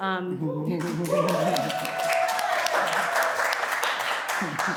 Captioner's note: audience applauding